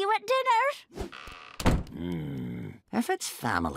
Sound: growling

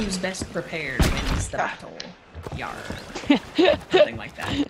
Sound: laugh

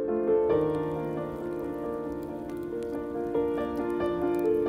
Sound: fire crackling

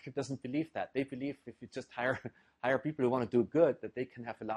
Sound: laugh

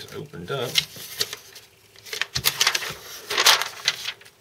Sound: shuffling paper

